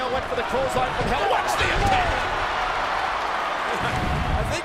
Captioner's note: crowd cheers